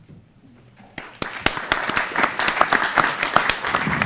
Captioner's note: audience applauding